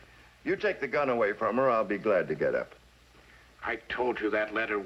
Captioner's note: none